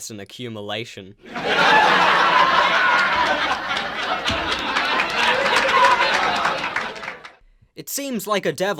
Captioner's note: sitcom laugh track